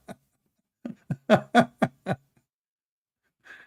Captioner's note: Ketawa